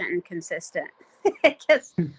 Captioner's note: chuckling